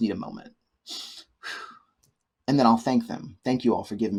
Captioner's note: exhales